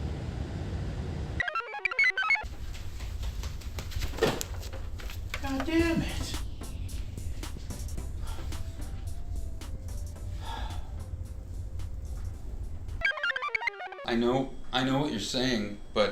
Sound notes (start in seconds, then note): 1.4 computer chirps; 2.4 clothes rustle; 2.4 slippers patter; 3.2 chair clunks; 6.8 blissful music; 8.3 Patient #4 huffs; 13.0 computer chirps